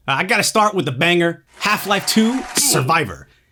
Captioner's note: cheering